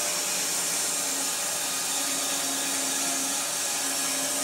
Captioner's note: saw whirring